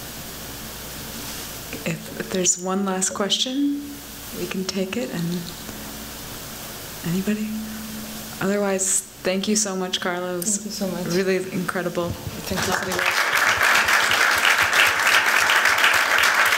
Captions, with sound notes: If there's one last question, we can take it. Otherwise, thank you so much, Carla. It was really incredible. Thank you so much. [applause]